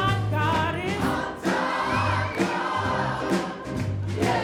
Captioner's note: audience whistles